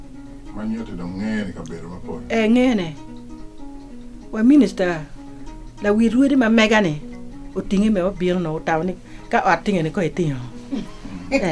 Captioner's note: man speaks